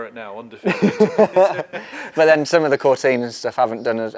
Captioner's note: laughs